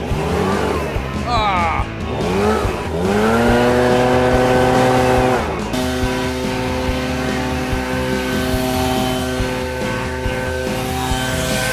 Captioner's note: leaf blower running